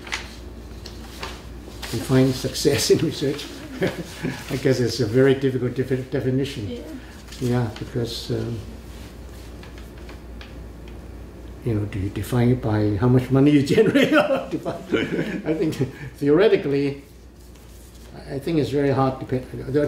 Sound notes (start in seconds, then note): 3.3 laughs; 13.7 laughs